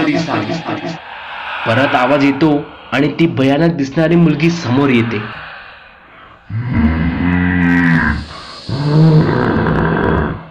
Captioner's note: ghostly sound